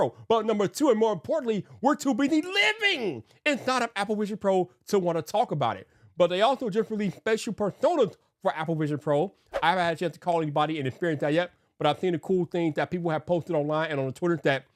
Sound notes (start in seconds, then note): 9.5 graphics swooshing